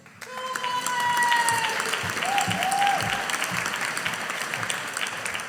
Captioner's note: audience applauding